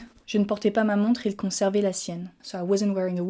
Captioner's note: speaking in French